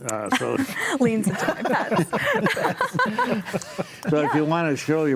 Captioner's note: panelists laugh